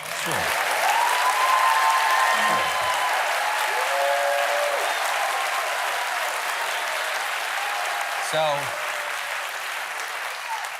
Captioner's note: applause